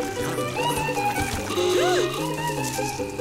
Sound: horn honking

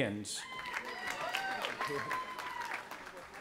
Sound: cheering

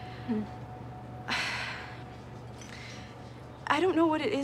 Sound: Greta sighs

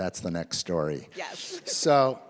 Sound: laughs

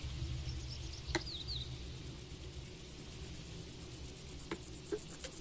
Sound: birds chirping

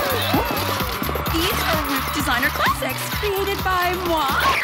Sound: cheering

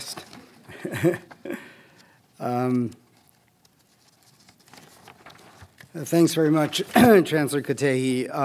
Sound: laugh

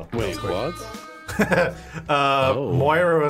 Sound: laughing

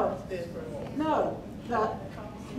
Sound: man speaking

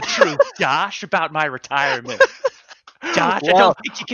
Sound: laughing

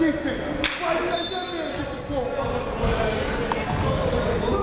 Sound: whistle blowing; shouting

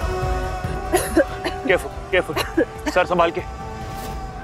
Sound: coughs

